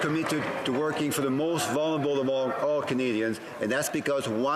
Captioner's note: some Applause